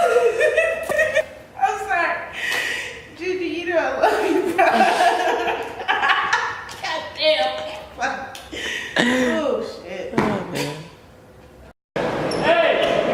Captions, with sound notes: JuJu, you know I love you bruh? (laughs) God damn